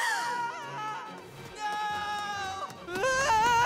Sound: screaming

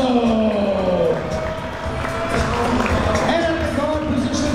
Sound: crowd members cheering

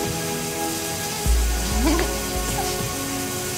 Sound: giggles

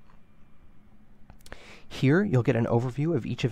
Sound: click

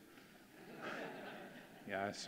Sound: audience laughing

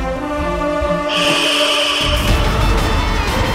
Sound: hissing

